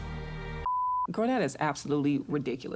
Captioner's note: beeping